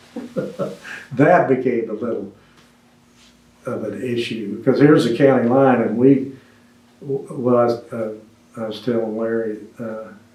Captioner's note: laughs